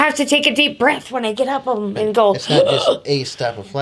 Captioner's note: gasps